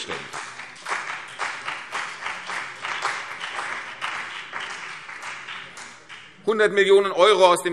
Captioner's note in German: Beifall CDU und BÜNDNIS 90/DIE GRÜNEN